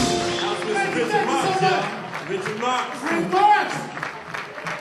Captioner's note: applause